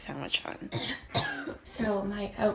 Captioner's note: coughs